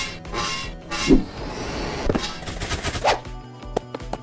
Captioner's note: mechanic 'whiring'; running